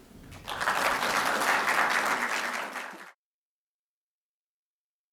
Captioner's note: applause